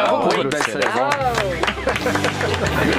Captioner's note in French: applaudissements